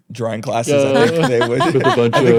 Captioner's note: all laughing